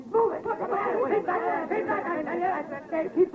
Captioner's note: commotion amongst crowd